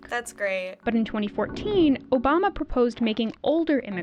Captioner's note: voice-over